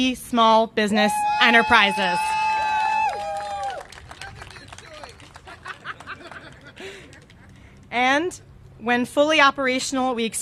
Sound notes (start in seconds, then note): 1.1 cheers and applause; 5.3 laughter